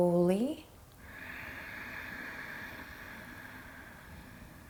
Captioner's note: breathes deeply